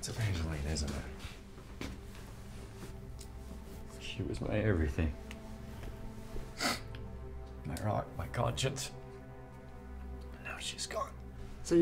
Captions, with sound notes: It's Evangeline, isn't it? - She was my everything. (sniffs) My rock, my conscience. And now she's gone.